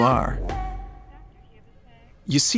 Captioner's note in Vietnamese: tiếng điện thoại reo